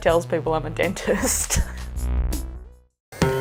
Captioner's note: laughs; kooky electronic music